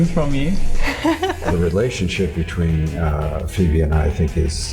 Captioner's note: laughs